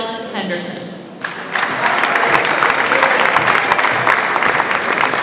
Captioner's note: audience applauds